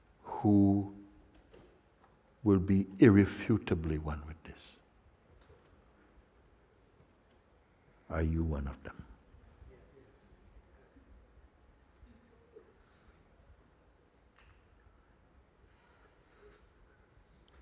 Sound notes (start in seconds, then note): 12.3 Lange Stille